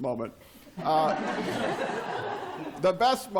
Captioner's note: laughter